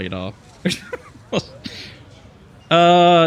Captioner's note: laughs